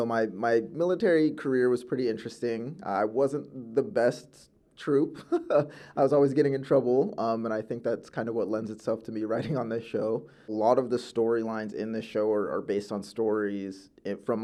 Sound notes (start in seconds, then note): 5.0 laughs